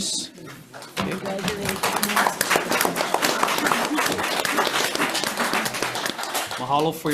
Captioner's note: audience applauding